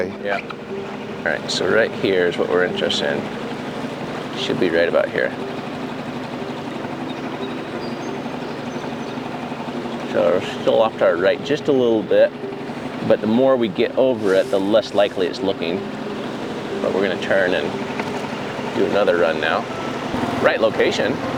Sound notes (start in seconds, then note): 5.4 engine rumbling; 5.4 somber music